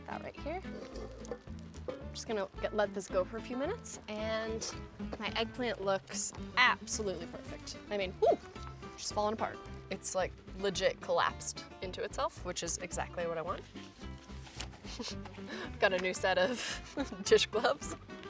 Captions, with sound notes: Put that right here. Just gonna, let this go for a few minutes and my eggplant looks absolutely perfect. I mean, hoo, she's falling apart. It's like legit collapsed into itself which is exactly what I want. (chuckles) I've got a new set of dish gloves.